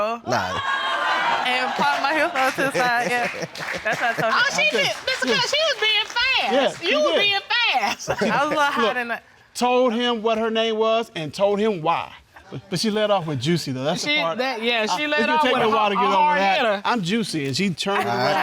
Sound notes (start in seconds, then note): 0.3 audience clamoring; 2.6 chuckling; 8.0 judges laughing; 13.9 stammers